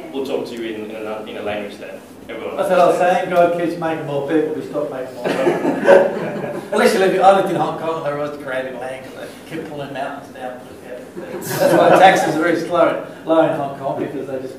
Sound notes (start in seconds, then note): 5.2 laughter; 11.2 laughter